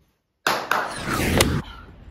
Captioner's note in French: Man claps twice